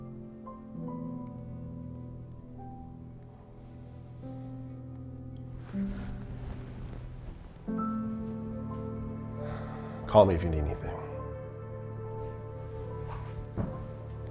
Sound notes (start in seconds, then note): 0.1 soft dramatic music; 3.4 Arawn exhales